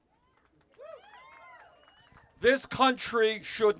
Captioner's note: cheers